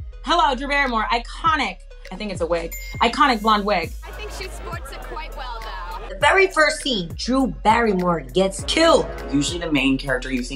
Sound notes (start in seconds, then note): 2.7 bell dings; 8.5 ominous tone